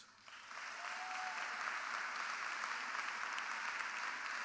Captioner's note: audience applauding